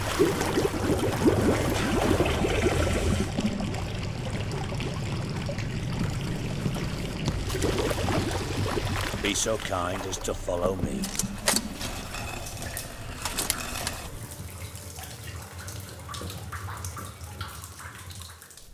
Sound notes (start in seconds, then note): 0.1 water bubbling; 3.3 sound of water flowing; 7.4 water splashing, gurgling; 11.6 scraping noise; 14.2 water dripping